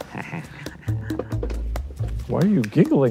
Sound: chuckling

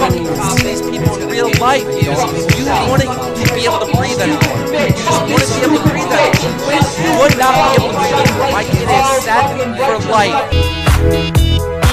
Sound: crowd bitch gibberish

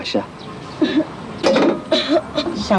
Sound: plate clanging

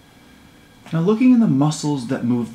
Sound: voiceover

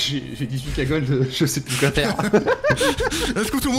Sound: laughs

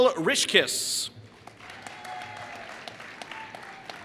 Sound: applause

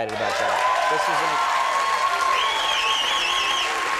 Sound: applause

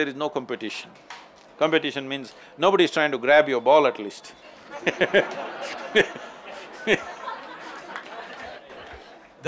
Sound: laughter

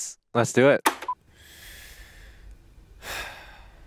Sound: clicking; tone beeps; sighs

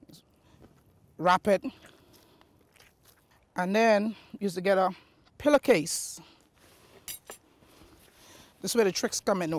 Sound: utensils clanking

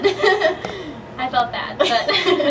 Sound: laughs

